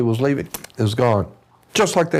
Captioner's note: click